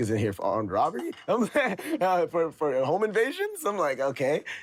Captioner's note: laughs